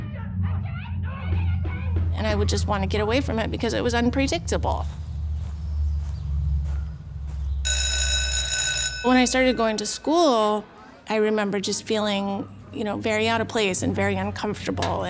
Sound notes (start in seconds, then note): 5.5 birds chirping; 7.6 bell ringing